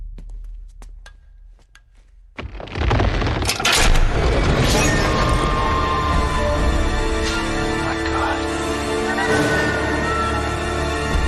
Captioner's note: in-game audio